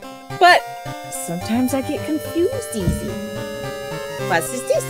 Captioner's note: thonks microphone